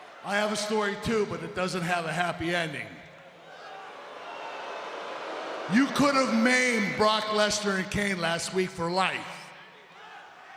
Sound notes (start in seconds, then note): 3.4 audience booing